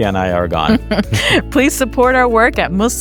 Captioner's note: chuckles